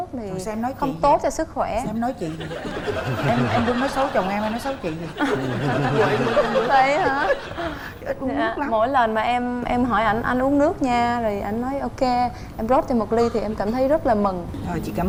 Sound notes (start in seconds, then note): 5.5 laughing